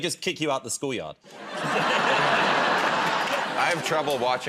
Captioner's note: laughter